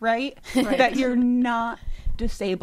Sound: laughs

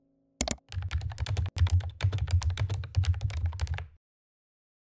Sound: typing

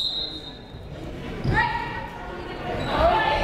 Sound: whistle blows

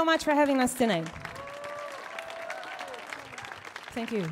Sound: audience clapping; audience cheering

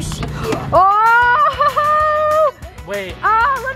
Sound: gasping

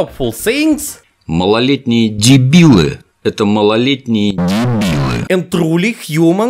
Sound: funny russian noices

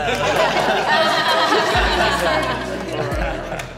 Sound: everyone laughing

